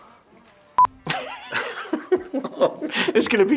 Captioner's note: both laughing